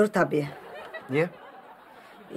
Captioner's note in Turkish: Gülme efekti